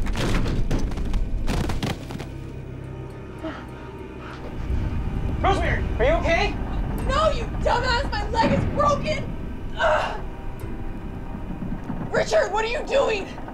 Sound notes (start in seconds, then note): 0.0 thudding; 0.1 light dramatic music; 9.7 Rosemary groans